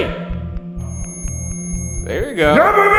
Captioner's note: REM pod screeching